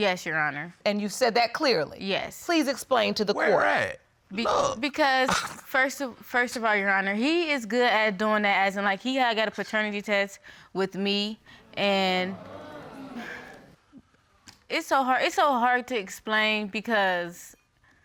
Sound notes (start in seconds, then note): 12.2 audience exclaiming